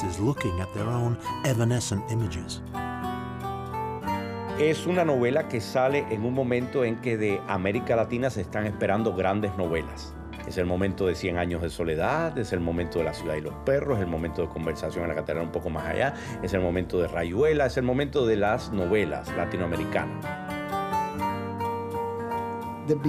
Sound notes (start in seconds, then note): 4.8 speaking Spanish